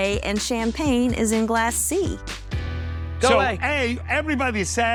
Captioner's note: yelling